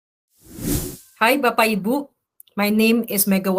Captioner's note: non-english speech